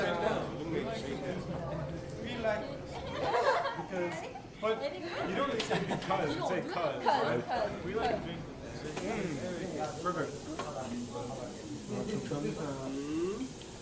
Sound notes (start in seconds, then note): 4.1 background chat